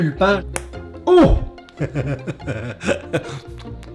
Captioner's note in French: rires